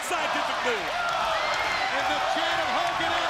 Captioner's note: crowd cheering